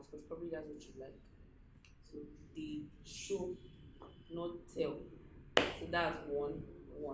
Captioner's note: claps